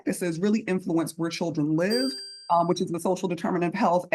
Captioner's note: electronic tone